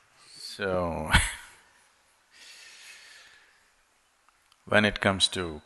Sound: laughs

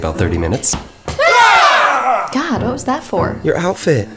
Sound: screams

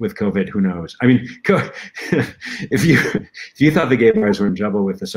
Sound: laughter

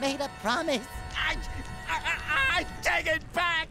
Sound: groaning

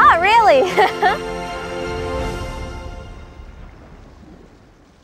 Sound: laughs

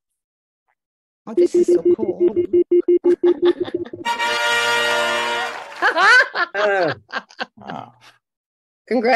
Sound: laughter

